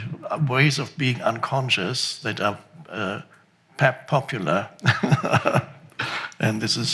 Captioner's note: laughs